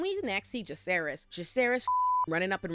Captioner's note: beep